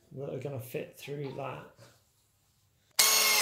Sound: drill sounds

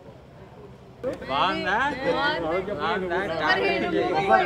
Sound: chatter in Telugu

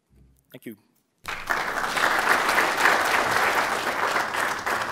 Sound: applause

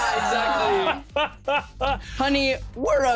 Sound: chuckling

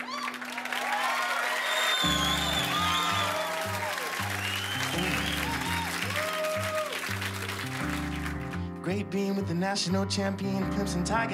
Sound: cheers and applause

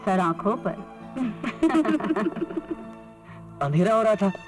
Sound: laughs

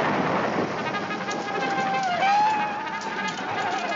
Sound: soldiers whooping

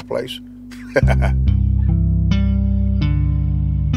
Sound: laughs

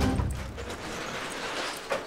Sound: shutter closes

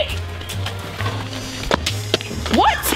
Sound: splashing

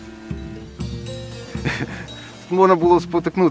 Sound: laughs

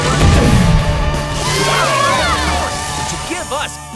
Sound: cheering

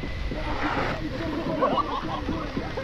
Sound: laughs

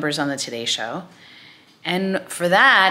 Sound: none

